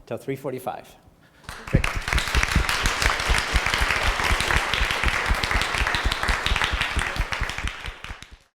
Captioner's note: applause